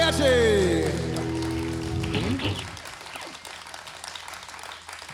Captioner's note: audience applauds